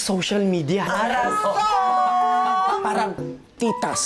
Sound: in Korean-ish

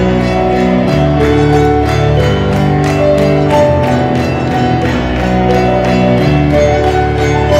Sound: clapping intensifies again

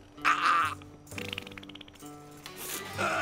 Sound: choking; sputtering; groan

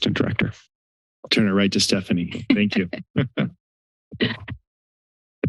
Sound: laughter

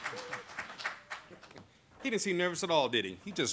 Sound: applause

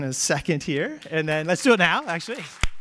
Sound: applause

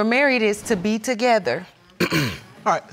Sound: clears throat

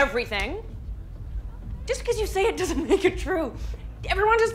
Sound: chuckles

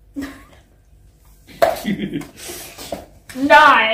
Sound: laughs at witty creation

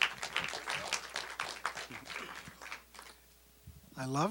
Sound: applause

